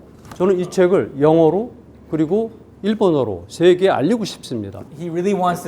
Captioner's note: speaking in Korean